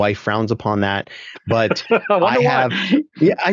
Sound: laughing

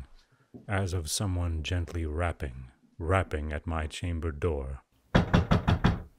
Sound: sound of knocking

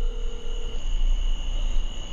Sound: crickets intensify

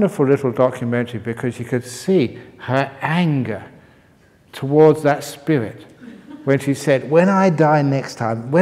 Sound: laughter

